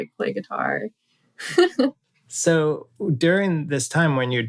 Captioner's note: laughter